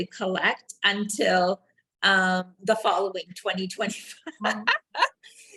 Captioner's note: laughing